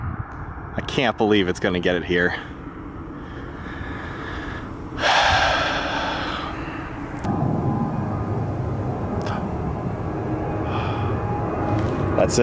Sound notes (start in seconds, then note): 9.5 sigh